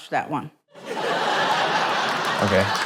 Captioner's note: laughter